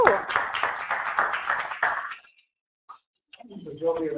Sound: audience applauds

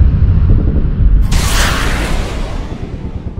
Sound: missile sounds

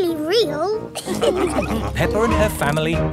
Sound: all laughing

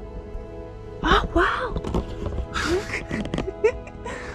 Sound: laughs

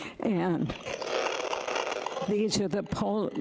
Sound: rattling

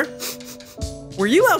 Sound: Pork Chop sniffing

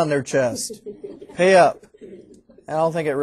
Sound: students laughing

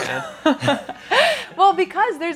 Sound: all laughing

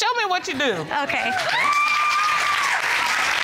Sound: audience cheers

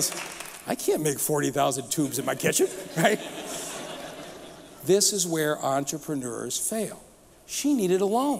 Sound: applause

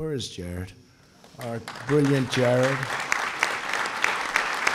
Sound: applause

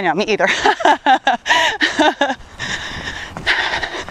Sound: laughs

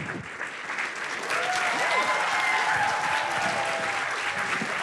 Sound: cheers and applause

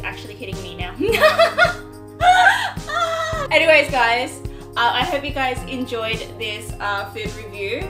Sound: gasp

